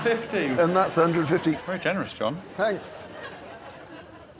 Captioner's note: blows whistle